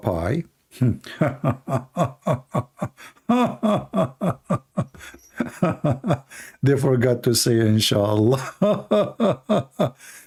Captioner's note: Ketawa